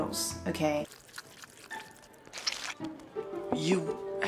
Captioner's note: slurpls noodles